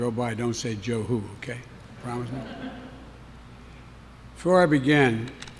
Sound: laughter

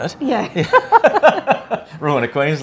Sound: laughs

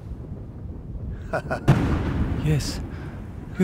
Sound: thunderclap

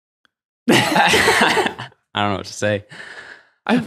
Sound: laughs happily

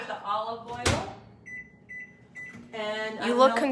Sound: microwave door closes; microwave beeps

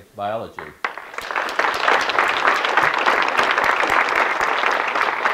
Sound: audience clapping

